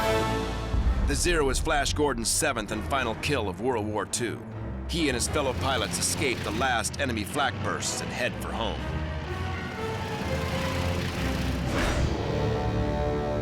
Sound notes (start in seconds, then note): 8.3 engines whirring